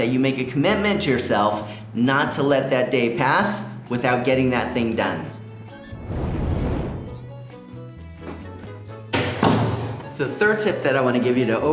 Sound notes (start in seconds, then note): 6.2 jaunty music; 9.1 door closing